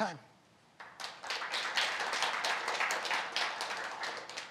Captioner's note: applause